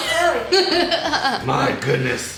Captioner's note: laughter